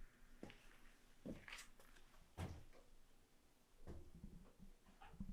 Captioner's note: none